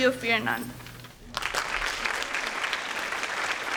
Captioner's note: applause